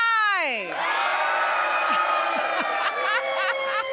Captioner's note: loud cheering